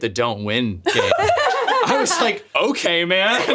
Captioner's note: laugh